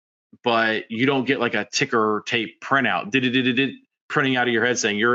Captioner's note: trills